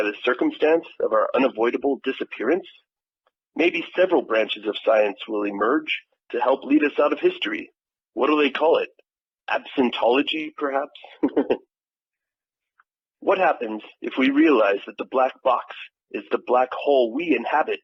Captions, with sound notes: circumstance of our unavoidable disappearance? Maybe several branches of science will emerge to help lead us out of history? What’ll they call it? Absentology perhaps? (laughs) What happens, if we realize that the black box is the black hole we inhabit?